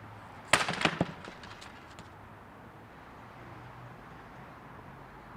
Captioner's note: chair cracks and breaks